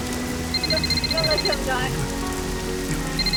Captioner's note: phone ringing